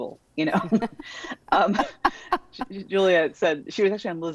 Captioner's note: both laughing